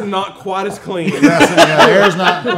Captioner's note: everyone laughing